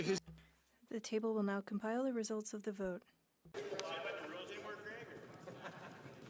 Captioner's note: speaking French